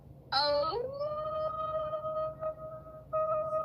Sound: howling

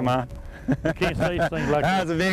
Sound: laughter

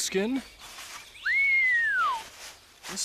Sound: whistles

